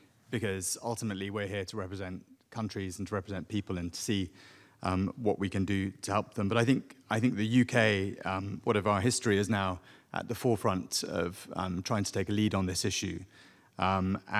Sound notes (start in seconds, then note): none